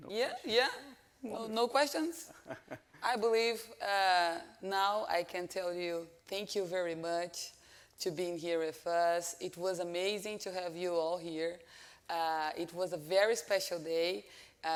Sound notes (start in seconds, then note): 2.4 chuckles